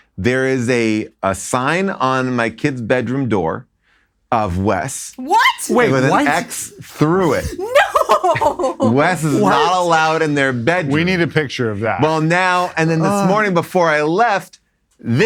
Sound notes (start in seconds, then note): 8.5 laughs